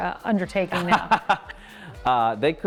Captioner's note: laughing